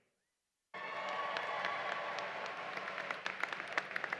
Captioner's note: applause